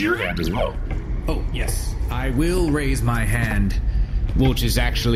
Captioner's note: clacking into the room